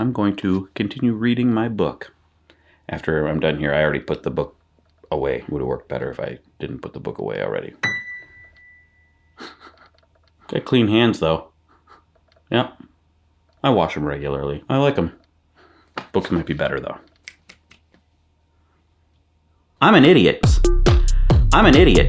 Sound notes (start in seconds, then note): 7.8 piano key dings; 9.4 sniffing; 20.4 upbeat music